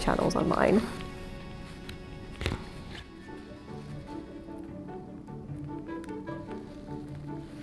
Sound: classical music; fabric rustling

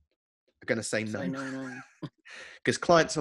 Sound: laughs

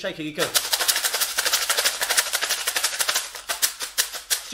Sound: shaking sound

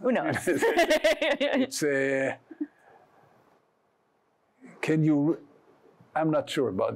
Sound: laughs

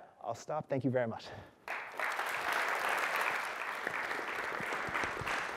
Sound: applause

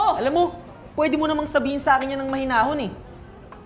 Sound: shouting

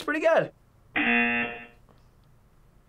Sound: buzzer

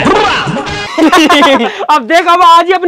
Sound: laughing

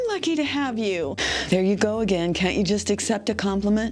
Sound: sighs

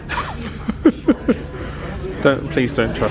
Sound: laughs

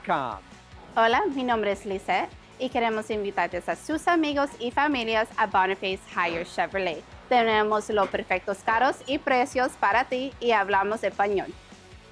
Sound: Spanish

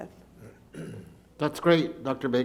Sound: clears throat

